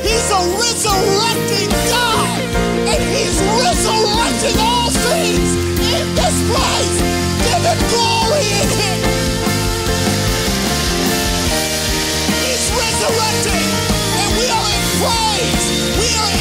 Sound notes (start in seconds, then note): 9.3 audience applauds; 9.3 audience cheering; 10.9 triumphant music